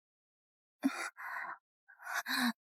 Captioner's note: gasp!